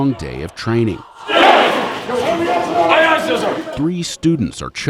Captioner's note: shouting